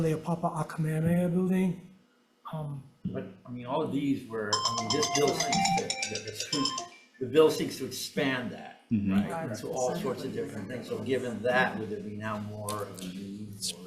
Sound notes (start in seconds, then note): 4.5 mobile phone ringing